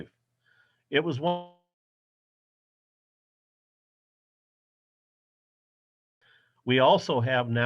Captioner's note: silence